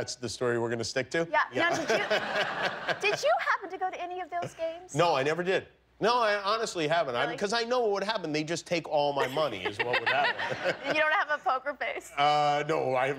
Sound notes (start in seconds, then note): 3.9 laughter